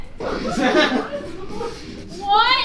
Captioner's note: audience laughs